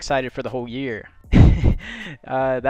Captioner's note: laughs